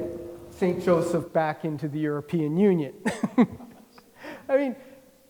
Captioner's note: laughs